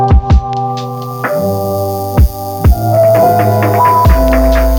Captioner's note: tattoo machine buzzing